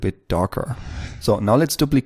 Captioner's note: whoosh